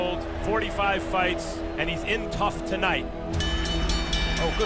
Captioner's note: bell dinging